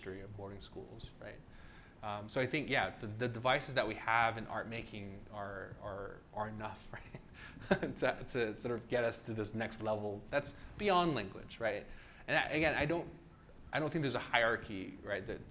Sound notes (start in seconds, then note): 6.8 laughs